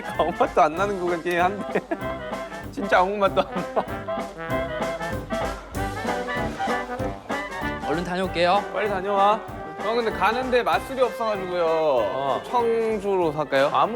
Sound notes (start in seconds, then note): 5.6 slurp